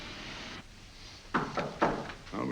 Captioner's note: knock on the door